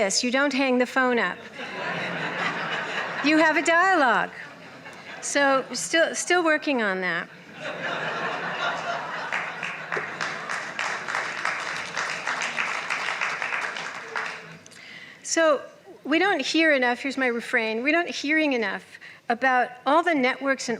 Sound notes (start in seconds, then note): 1.4 laughter; 7.5 laughter, applause